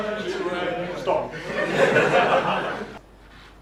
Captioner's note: audience laughter